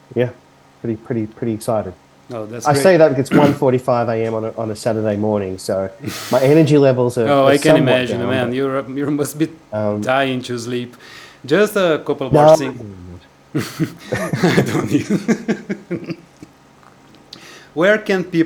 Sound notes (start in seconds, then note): 16.3 laughter